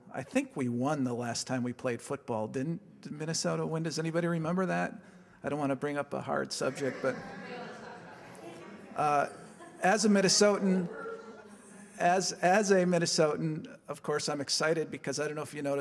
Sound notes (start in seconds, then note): 6.6 audience chatter